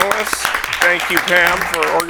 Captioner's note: attendees applaud